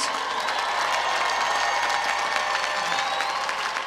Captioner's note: applause